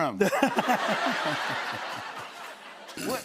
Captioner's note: laughter